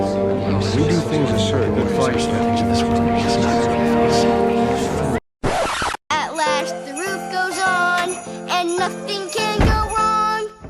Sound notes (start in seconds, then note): 5.4 record scratch